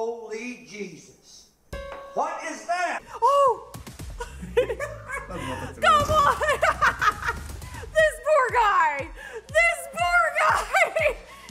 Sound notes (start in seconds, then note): 4.2 laughing